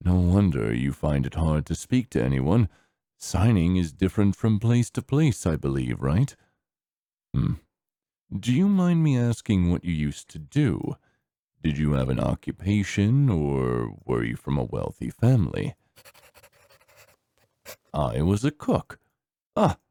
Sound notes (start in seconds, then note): 15.9 pencil scribbling